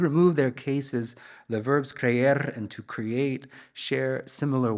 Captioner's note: speaks in Spanish